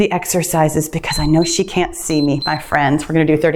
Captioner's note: timer beeps